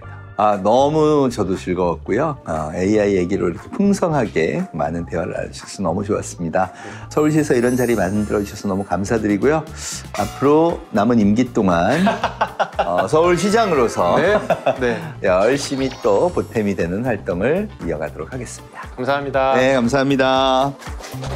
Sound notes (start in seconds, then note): 11.9 laughter